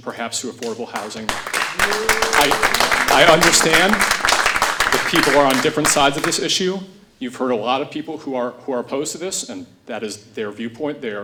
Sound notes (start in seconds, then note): 0.9 audience clapping